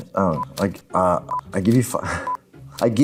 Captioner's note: playful music; laughing